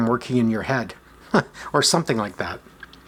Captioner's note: chuckles